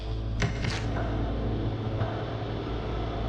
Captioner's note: click; machine hum